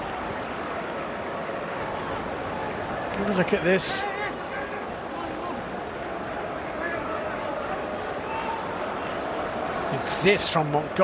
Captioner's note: audience oohs